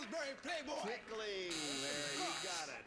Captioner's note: buzzer